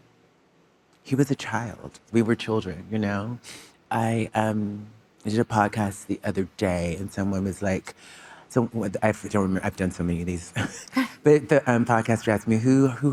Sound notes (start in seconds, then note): 10.5 chuckling